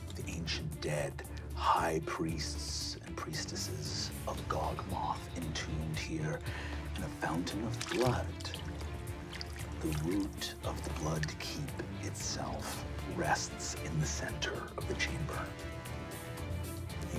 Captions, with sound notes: of the ancient dead high priests and priestesses of Gogmoth entombed here in the fountain of blood. (splashing) The root of the Bloodkeep itself rests in the center of the chamber.